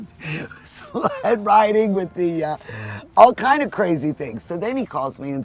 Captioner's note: laughs